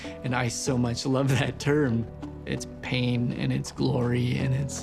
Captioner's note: chuckles